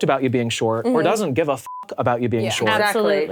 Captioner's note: beep